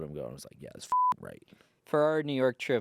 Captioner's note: beep